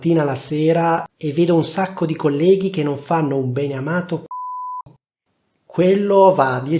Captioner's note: beep